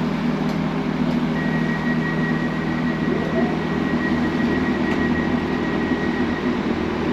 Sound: alarm Beeping

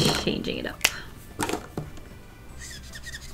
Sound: marker cap clicks

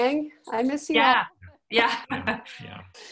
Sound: chuckles

